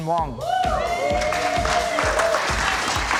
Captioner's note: clapping